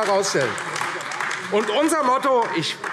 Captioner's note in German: Beifall AfD